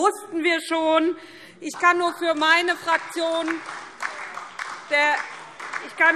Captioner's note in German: Beifall SPD und DIE LINKE - Zurufe AfD